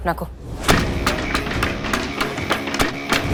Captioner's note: sticks stomping